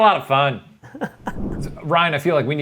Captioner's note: laughs